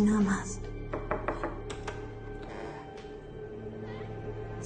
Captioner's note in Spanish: Toques en la puerta